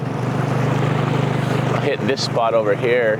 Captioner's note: motor chugging